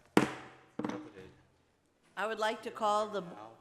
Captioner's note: gavel knocking